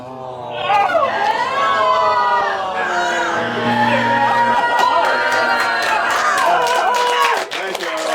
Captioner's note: gasps; cheers and groans